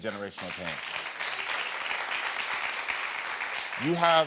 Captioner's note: audience applauding